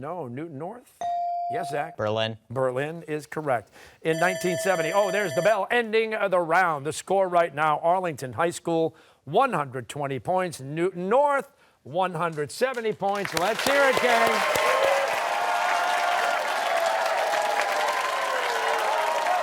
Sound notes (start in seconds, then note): 4.1 alarm sounds